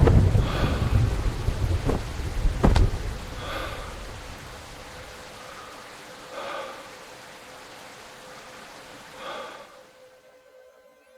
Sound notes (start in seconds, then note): 0.5 gasp; 2.6 gasps